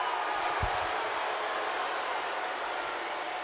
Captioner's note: crowd boos